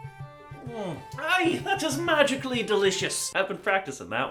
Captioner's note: more horrible Irish accent